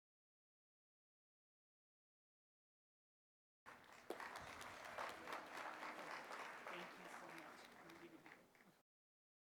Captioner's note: applause